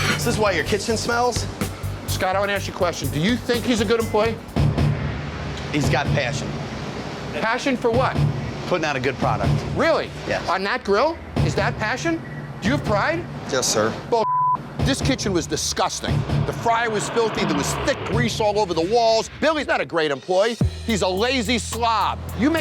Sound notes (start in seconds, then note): 4.4 dramatic suspenseful music; 14.2 beep